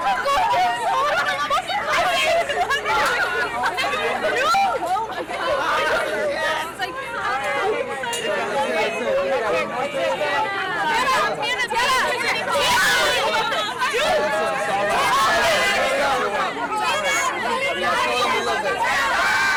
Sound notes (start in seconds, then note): 4.9 fans chattering